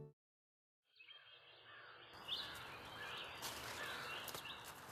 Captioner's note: birds chirping